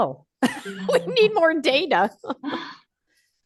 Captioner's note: laughing